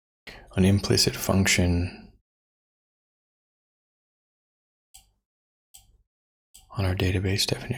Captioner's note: blank Audio